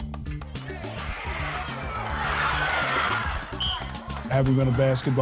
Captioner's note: crowd cheering